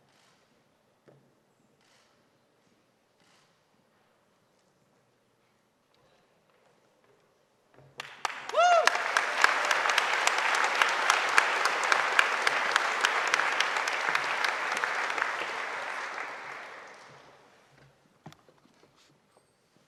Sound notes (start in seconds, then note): 8.0 audience applauding; 8.0 audience cheering